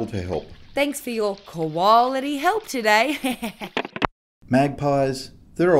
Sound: chuckles

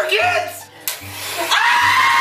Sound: mixer sounds

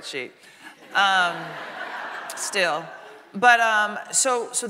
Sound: audience laughing

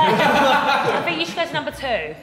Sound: Sidemen laughing

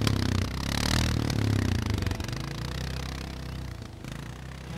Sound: engine revving

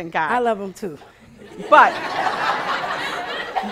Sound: laughing

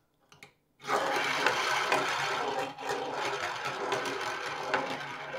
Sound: steel marbles rolling

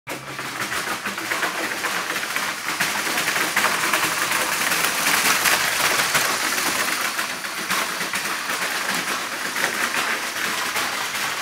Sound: walking noise

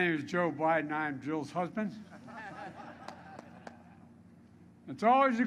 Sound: laughter

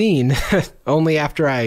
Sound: scoffs

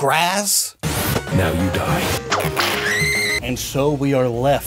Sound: screams

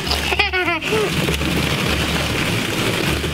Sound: laughs

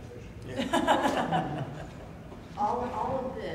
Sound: laughter

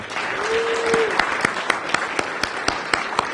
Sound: applause

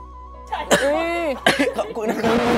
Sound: cough

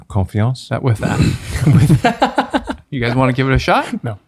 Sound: Father Innocent laughs

